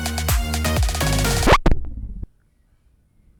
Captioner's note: record scratch